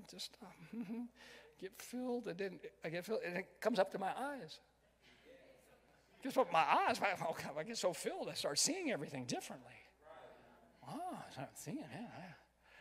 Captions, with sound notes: Just, hm, hmm, get filled. It didn't, I get filled, it then comes up to my eyes. - [Crowd] Yeah. - Just up to my eyes. I get so filled, I started seeing everything differently. - [Crowd] Right. Wow, I'm thinking, yeah, yeah.